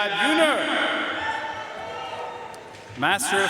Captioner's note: audience cheering and applauding